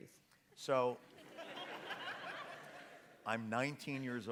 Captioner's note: audience laughs